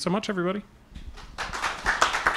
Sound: applause

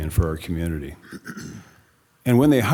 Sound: attendee clears throat

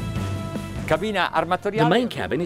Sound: speaks in foreign language

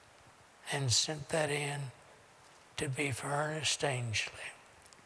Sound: none

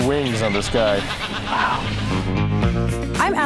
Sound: bird cawing

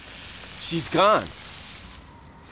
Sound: hissing

